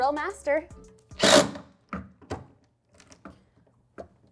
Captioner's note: drill whirring